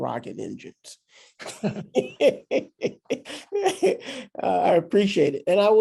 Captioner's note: people laugh